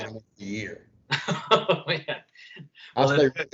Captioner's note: laughter